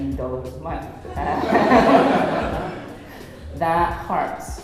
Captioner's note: laughing